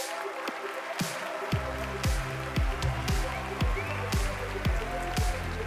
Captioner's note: applause